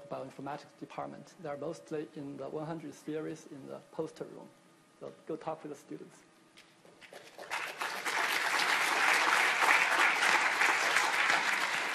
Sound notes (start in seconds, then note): 7.1 audience applauding